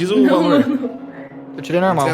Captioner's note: laugh